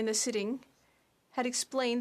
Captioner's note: speaking French